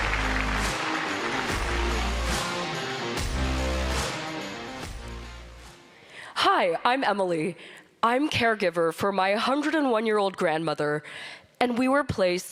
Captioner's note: applause